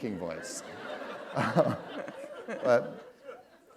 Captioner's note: laughter